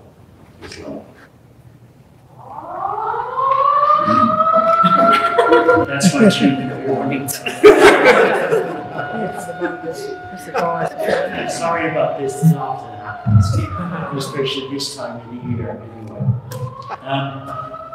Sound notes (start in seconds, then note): 2.4 siren; 4.5 laughter; 8.4 siren; 12.9 laughter; 13.5 siren